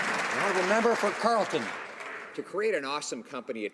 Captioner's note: some Applause